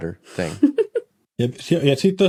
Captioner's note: giggles